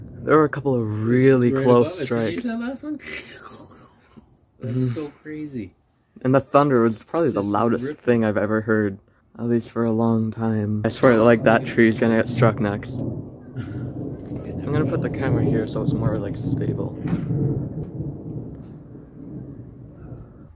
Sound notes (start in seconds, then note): 0.0 makes lightning noise; 12.3 thunder rumbles; 16.3 thunder rumbles